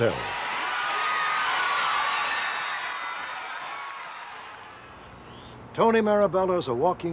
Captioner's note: cheering